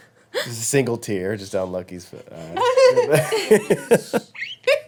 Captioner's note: laughing; chattering drowned out by laughing